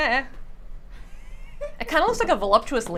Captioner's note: laughs